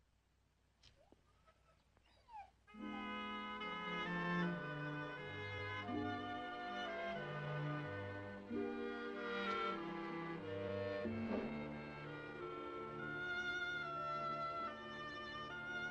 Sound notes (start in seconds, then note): 1.1 sobbing